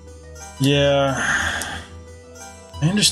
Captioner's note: sighing